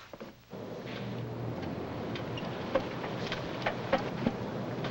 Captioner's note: machines humming